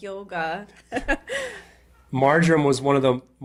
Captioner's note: chuckles